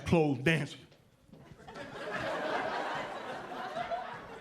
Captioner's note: audience laughing